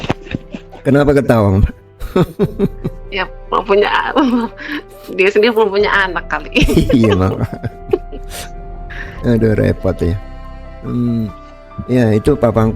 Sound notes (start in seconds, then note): 2.4 tertawa